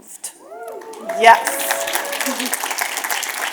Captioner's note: audience cheers and applause